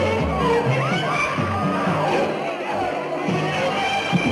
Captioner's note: women screaming